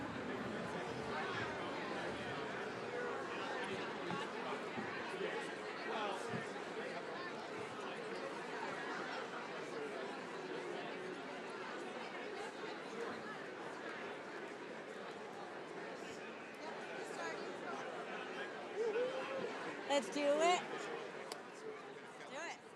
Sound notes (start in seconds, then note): 0.3 attendees chattering continues; 16.8 attendees chattering continues